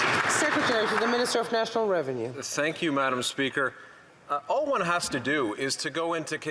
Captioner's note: some Applause